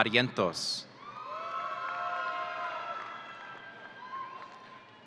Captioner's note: audience cheering